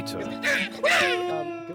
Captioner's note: monkey noises!